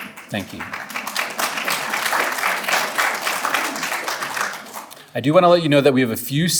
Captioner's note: audience applauding